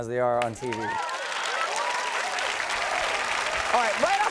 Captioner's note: audience cheers and applauds